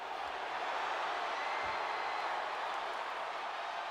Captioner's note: crowd cheers